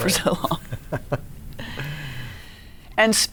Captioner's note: laughing